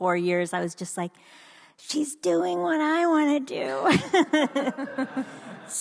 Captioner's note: laughs; audience laughs